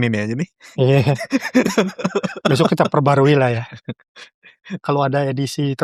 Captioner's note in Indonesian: tertawa